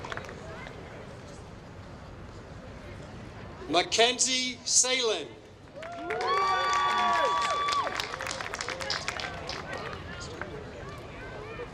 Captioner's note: applause; applause